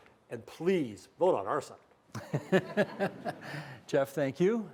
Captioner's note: laughter